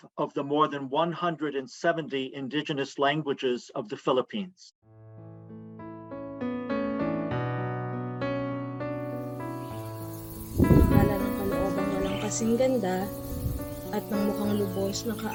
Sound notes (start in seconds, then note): 9.0 sounds of nature; 11.6 woman praying in Tagalog